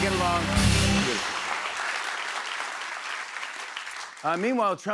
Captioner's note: applause